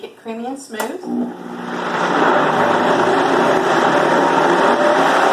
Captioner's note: blender whirring